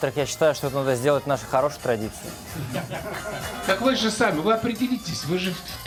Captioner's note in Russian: смех